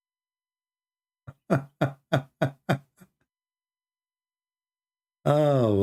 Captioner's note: Ketawa